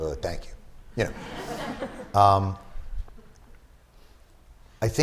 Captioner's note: laughter